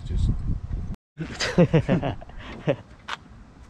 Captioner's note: laughs